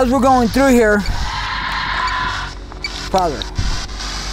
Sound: machine beeping

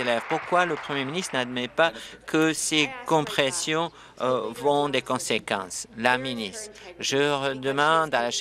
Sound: applause

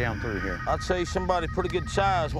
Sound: phone ringing

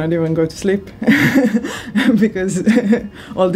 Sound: laughs

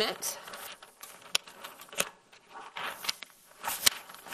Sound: paper rustling

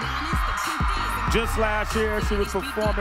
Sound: applause

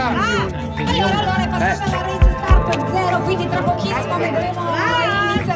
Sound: announcer speaking in Italian

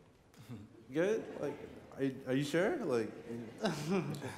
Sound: laughs

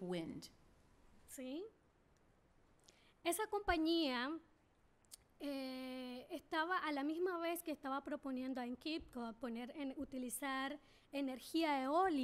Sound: speaking spanish

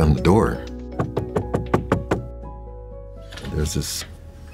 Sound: door knocks

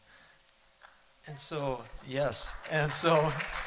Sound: applause

